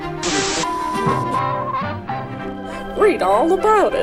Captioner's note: static; upbeat music; radio noises